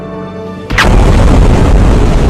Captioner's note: explosion